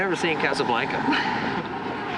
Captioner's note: chuckles